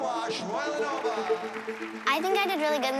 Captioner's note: applause